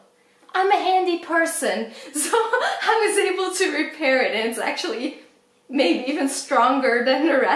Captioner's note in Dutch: lacht